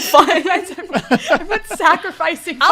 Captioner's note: laughing